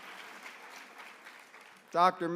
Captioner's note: applause